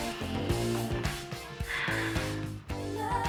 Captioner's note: sighs